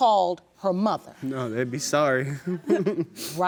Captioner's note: chuckles